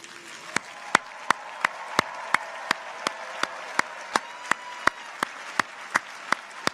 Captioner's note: audience applauds; people cheer